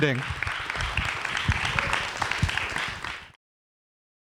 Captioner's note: applause